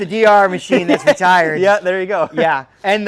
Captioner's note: laughing